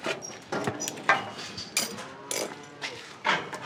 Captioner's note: cattle moo